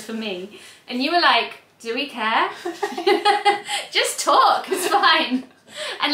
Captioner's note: laughs